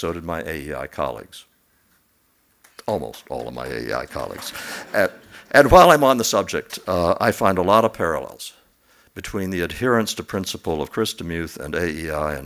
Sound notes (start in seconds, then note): 4.1 laughs